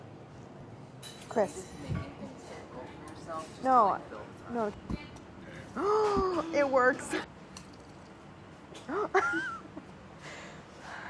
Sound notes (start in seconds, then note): 5.8 gasps; 8.8 laughing